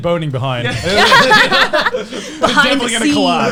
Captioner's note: laughs